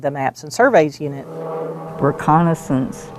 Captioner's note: airplane engine